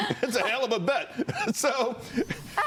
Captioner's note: laughter